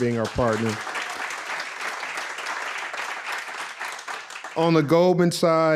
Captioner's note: audience applauds